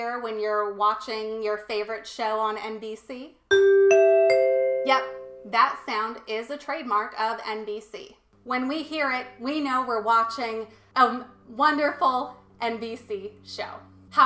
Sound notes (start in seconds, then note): 3.5 NBC chime